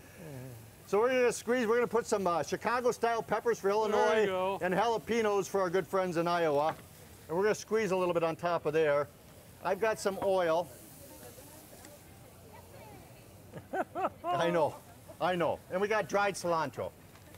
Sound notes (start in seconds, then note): 13.5 laughs